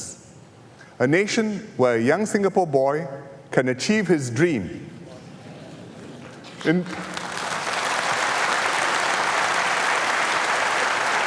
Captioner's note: applause